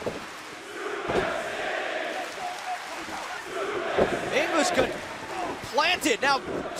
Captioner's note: crowd cheering